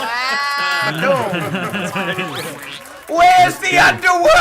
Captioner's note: group laughs